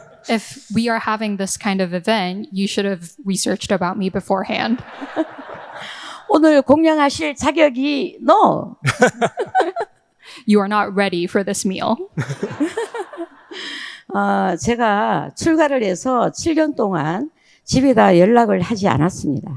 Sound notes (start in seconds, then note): 4.7 audience laughing; 6.3 speaking in foreign language; 8.8 both laughing; 12.2 audience laughing; 14.4 speaking in foreign language